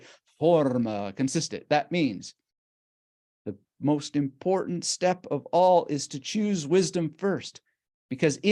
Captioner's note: speaks German